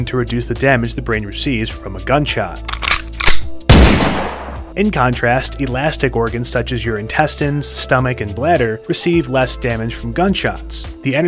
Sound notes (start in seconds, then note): 2.6 gun clicks and fires